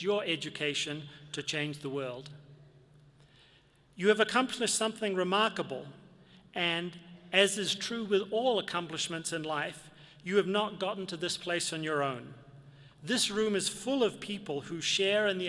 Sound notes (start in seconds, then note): none